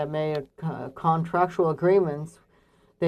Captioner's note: speaking French